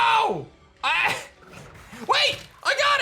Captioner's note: laughs